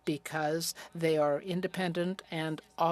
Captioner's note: speaking French